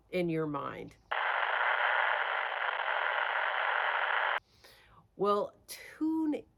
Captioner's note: crackling radio station